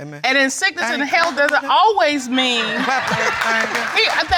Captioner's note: claps; audience laughing